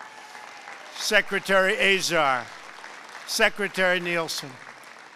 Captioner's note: applause